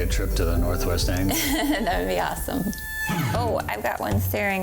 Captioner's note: laughs